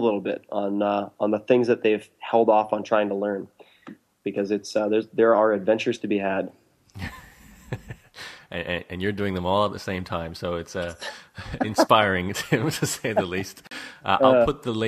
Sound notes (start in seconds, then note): 7.0 laughs